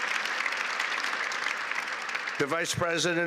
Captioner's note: applause